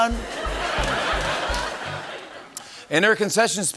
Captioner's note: laughter